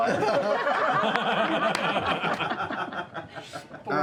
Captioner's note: laughter